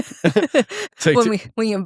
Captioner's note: laughing